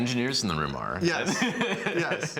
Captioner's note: laughs